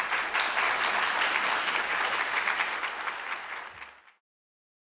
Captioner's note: audience applauding